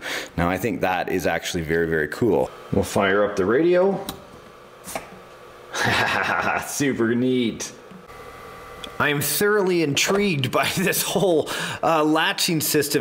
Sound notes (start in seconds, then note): 5.7 laughs